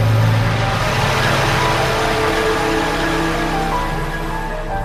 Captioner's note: engines hissing